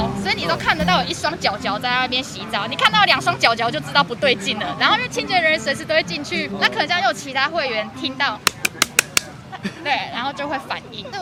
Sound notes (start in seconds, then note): 8.3 round of applause